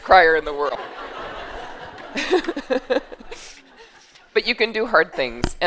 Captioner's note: laughter